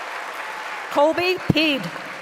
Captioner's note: applause